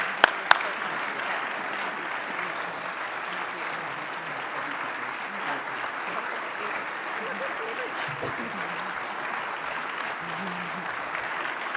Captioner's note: applause